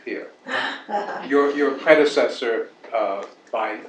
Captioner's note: laugh